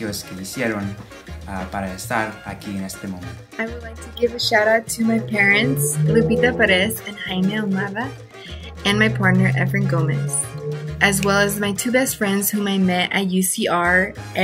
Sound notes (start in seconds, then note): 6.0 speaks in foreign language